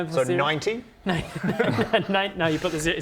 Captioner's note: laughs